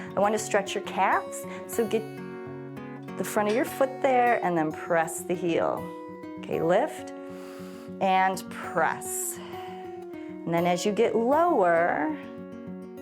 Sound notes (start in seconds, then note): 7.1 exhales; 7.1 inhales